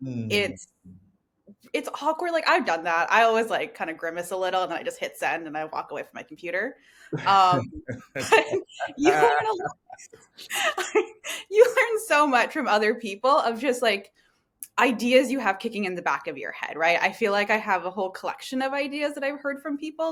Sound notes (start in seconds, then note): 7.2 laughter